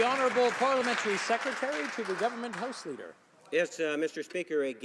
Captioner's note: some Applause